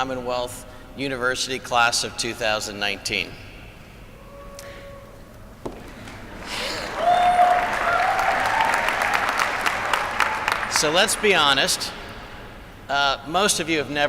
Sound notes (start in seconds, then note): 2.1 applause